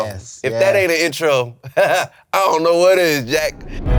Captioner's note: laughs; audio logo